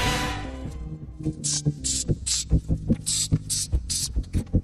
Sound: emmet beatboxing

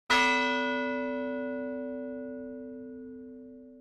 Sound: bell ringing

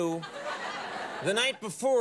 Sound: studio audience laughs

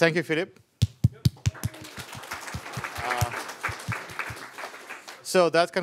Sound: applause

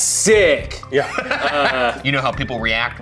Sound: laughs

